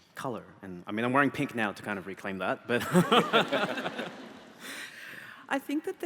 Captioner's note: laughing